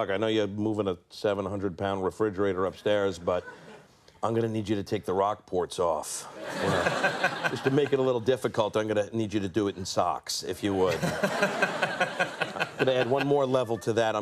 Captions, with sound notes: I know you had moving a 700 pound refrigerator upstairs but I'm going to need you to take the Rockports off just to make it a little difficult. I'm going to need you to do it in socks, If you would. (audience laughing) And to add one more level to that,